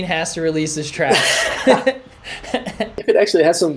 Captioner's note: laughter